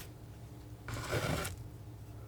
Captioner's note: scratching